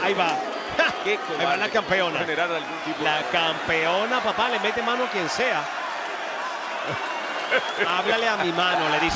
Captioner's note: laugh